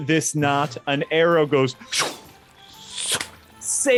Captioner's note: whooshes